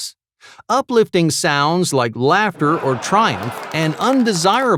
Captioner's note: people clapping